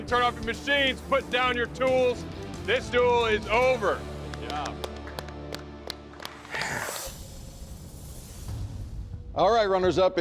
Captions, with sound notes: Gentlemen, turn off the machines. Put down your tools. This duel is over. [claps] Good job. [exhales]